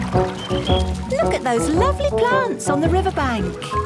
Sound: chirping

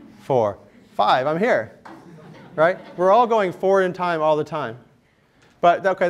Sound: laughter

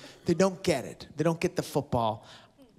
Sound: none

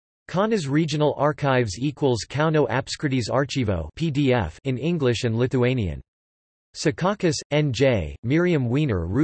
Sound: in English and Lithuanian

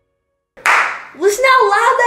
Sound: clapping

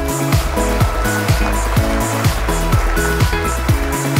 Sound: applause

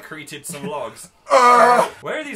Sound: screams

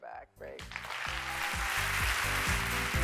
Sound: applause

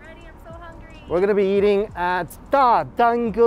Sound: speaking in Chinese

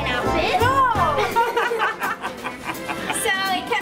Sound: laughing

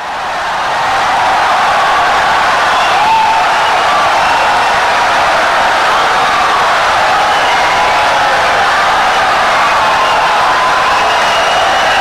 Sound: wild applause and cheering for 17 seconds

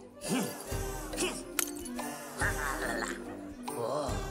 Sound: glass breaking

